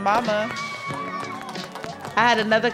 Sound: cheering and applause

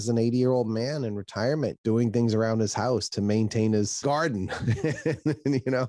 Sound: laughs

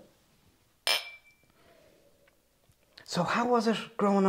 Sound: glasses clink

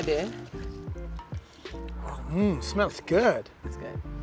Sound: sniffs

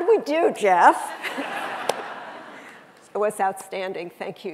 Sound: audience laughing

